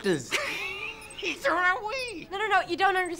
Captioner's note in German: Lachen